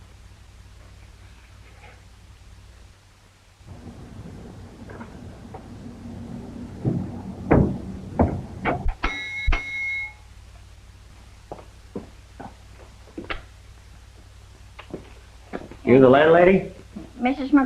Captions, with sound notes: (bell rings) - You the landlady?